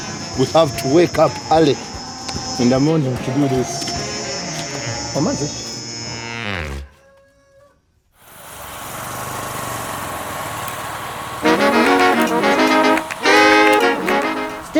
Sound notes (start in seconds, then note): 5.1 speaking in Lusoga; 11.4 afro jazz music